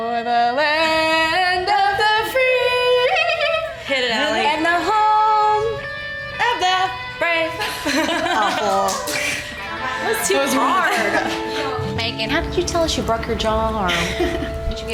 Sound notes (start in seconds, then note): 7.6 laughter